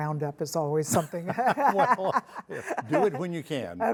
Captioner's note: laughing